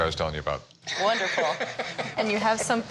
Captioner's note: Rick laughs